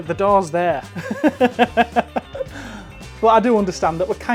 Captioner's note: laughs